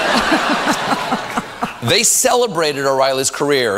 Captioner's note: audience laughter